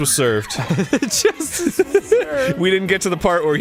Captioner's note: laughs; giggles